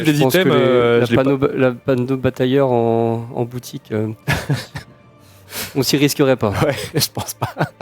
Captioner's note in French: rires